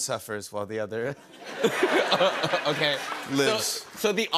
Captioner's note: laughter